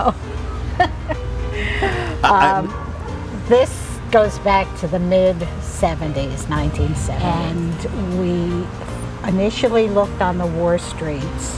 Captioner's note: sighs